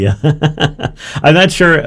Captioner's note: laughs